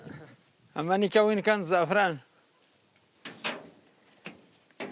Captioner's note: Arabic spoken audio